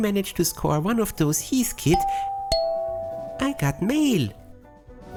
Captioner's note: ding dong